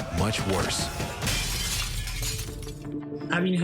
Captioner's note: glass shatters